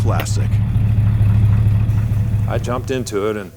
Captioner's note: engine roaring